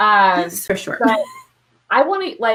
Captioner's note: chuckles